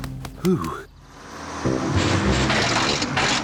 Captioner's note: bus splutters